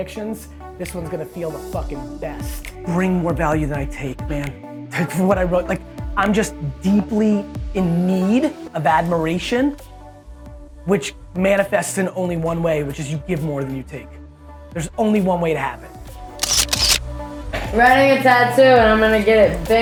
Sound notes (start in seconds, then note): 2.2 victorious music; 16.4 camera shutter clicking